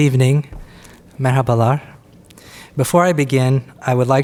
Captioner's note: speaks Turkish